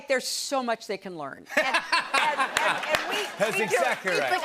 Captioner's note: laughter